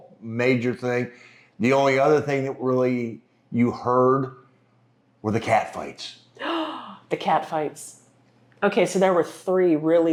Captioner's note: gasp